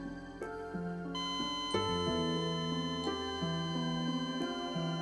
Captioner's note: machine continuously beeping